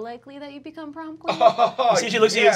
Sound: chuckling

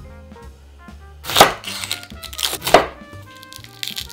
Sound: onion paper pealing

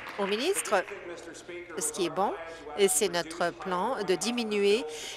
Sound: applause

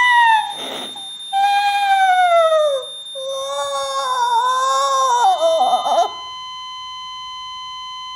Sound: crying loudly; heart Monitor Failure alarm

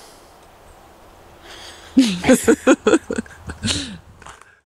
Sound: laughing

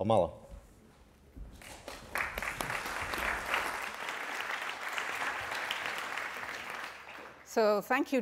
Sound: applause

